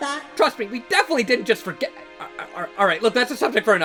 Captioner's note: stammering